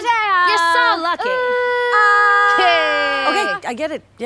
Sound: yelling

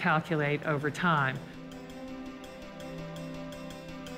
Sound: speaks French

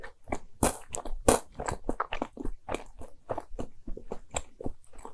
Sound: munching

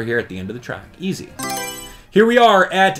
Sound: Mario Selection Sound

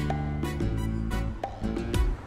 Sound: mouthing

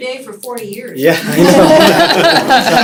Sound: laughter

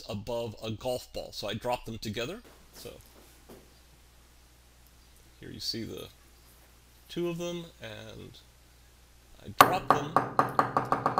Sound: ball dropping

